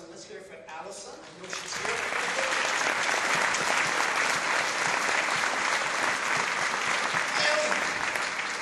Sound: applause

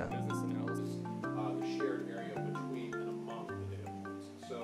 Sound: murmuring

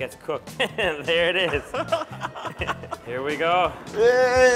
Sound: laughing

